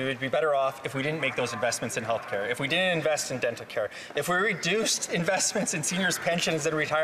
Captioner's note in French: voix de l'interprète